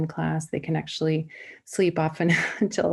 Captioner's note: laughter